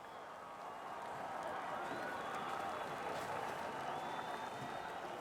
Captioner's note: crowd cheering